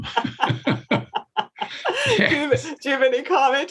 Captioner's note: both laughing